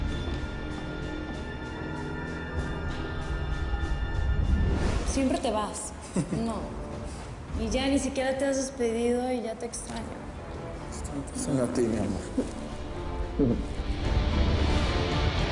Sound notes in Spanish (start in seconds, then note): 6.0 El ríe